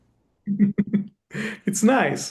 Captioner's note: chuckles